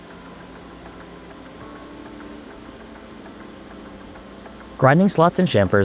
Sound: machine whirling

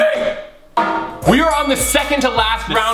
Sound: thud

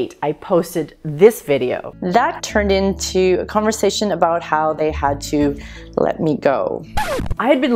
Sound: record scratch

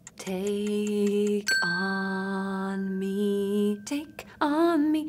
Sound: clock ticking; bell dinging

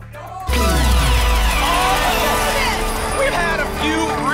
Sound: applause and cheering

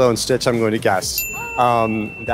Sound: bell dings

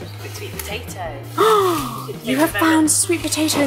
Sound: gasp

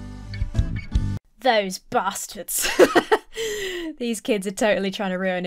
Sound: laughs

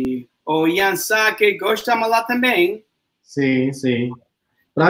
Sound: speaks portuguese

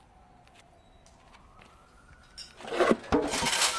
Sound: clanging

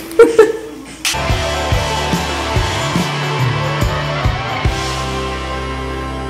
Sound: laughing; soft upbeat music

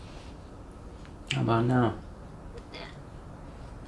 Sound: none

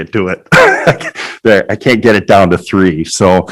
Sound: laughing

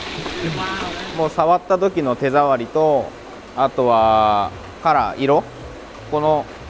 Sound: speaking in foreign language

